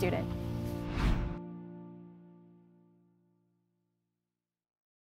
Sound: logo whooshes

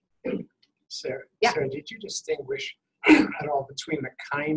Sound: voiceover

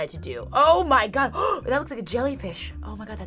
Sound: gasps

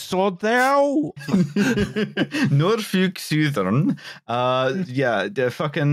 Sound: laughter

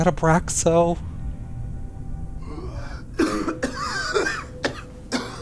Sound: coughing

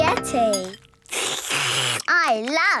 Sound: slurping

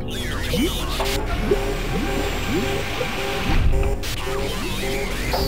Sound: alarms sounding

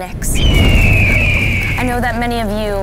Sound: bird screeching

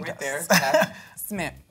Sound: chuckles

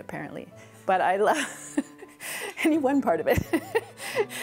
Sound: laughs

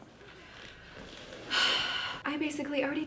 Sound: sighs

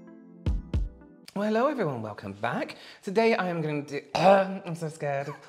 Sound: choking on fear

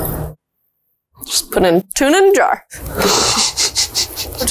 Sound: laughs

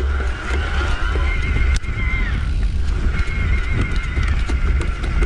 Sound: gears switching; motor whirring

